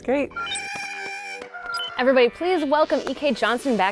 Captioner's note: porg squealing